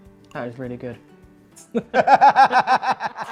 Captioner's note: laughs